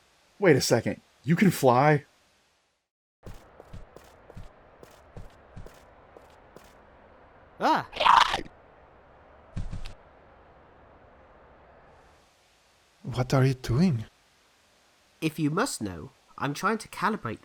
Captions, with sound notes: Wait a second! You can fly? [Human cry of alarm] [Bahro cry of alarm] What are you doing? If you must know I'm trying to calibrate this